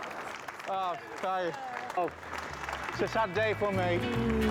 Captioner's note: colleagues applauding